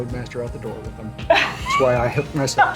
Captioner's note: laughter